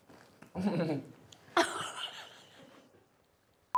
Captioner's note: both laugh